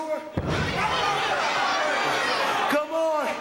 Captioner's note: crowd vocalizing